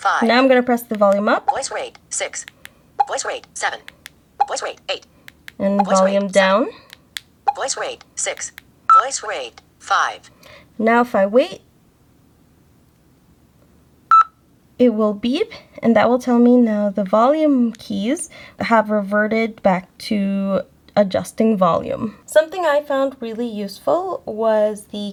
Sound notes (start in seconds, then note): 14.1 HIMS: beep